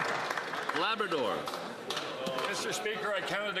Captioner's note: some Applause